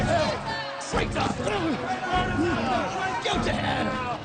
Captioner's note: crowd